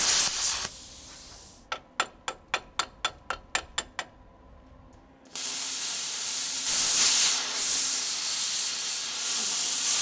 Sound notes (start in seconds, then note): 1.7 metal clanking repeatedly; 5.3 welder sputtering